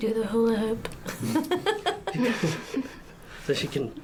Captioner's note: laughter